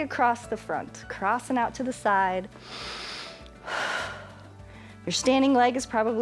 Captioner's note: inhales and exhales